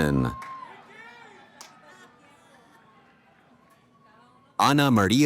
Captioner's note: cheering